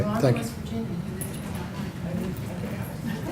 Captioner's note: laughter